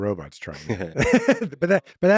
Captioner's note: laughing; laughs